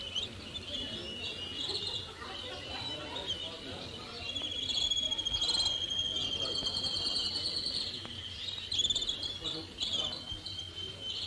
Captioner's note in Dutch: vogeltjes zingen